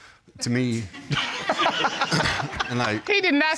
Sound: all laugh

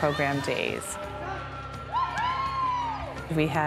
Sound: students cheer

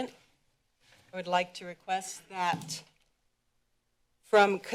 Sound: bang

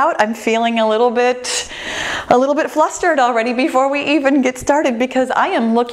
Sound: none

